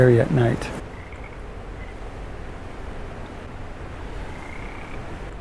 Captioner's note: frog croaking